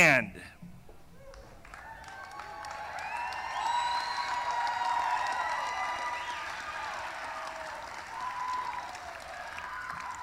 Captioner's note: cheering; applause